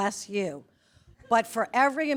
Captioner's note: attendees chuckle